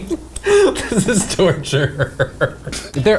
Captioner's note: laughs